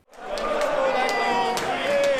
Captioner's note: fans cheering